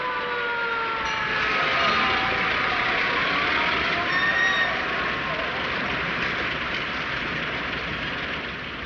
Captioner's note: sirens wailing